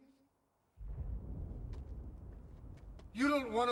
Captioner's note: distant thunder